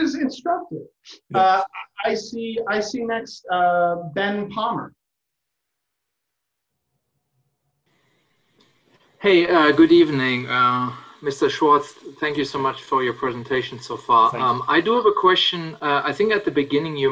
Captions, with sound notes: instructive. I see next Ben Palmer. [pause] Hey, good evening Mr. Schwartz, thank you so much for your presentation so far. I do have a question, I think at the beginning you